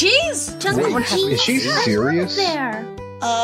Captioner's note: overlapping excited chatter